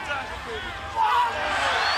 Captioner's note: crowd cheering